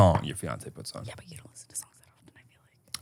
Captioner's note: whispers